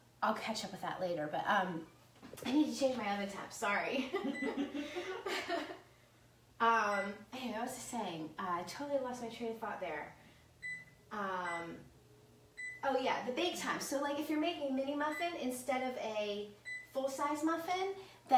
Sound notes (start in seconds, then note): 3.8 laughs; 11.0 beeping